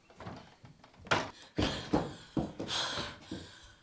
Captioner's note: pants